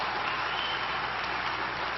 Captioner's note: applause